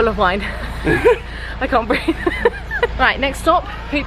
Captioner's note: laughs